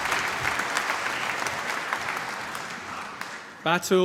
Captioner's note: applause